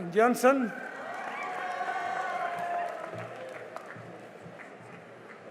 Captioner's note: cheering and applause